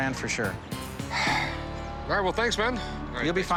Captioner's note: sighs